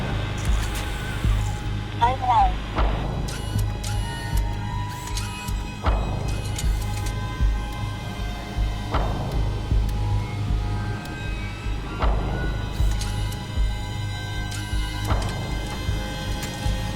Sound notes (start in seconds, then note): 1.9 automated Voice; 5.2 suspenseful music; 13.1 robot whirring mechanically